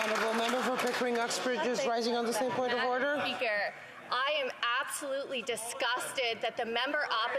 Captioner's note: applause